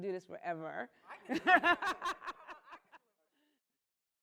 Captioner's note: laughter